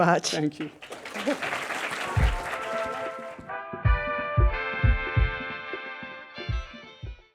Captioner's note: audience applauding; lively music